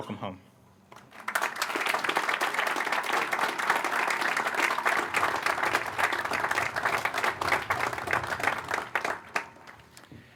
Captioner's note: applause